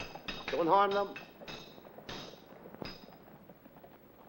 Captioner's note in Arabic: صوت السيوف; صوت السيوف